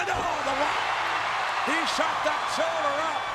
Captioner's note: crowd cheering